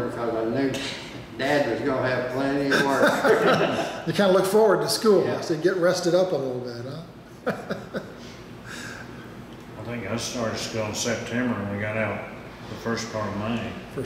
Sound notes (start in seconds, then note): 7.4 laughing